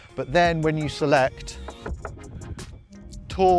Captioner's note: knocking